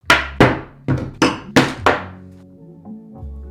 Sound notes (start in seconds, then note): 0.1 glass clinking